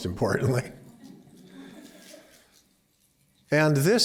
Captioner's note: laughter